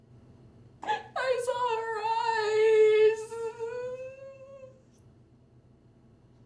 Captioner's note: sollozando